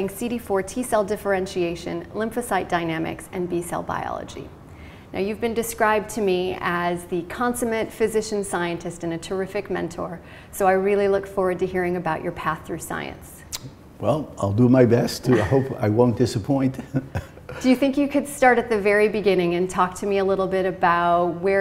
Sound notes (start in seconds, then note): 13.4 smacks lips; 16.7 chuckle